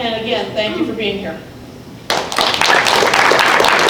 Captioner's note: applause